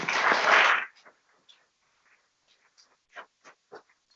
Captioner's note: people clapping